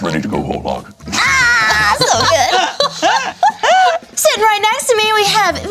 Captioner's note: screams